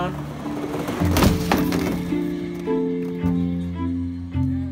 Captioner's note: loud thud